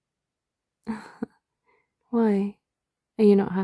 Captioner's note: laughs